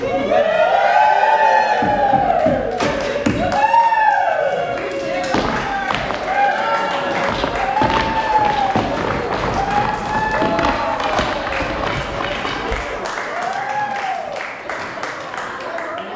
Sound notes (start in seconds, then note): 0.1 cheering; 7.2 sticks thumping; 13.3 chattering